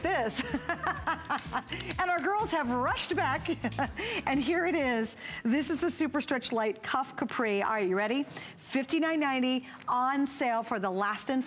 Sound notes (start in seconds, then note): 3.1 laughter